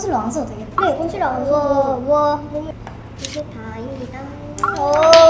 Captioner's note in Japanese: 拍手